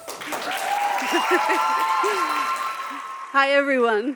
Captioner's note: audience applauding